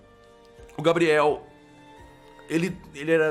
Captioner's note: stuttering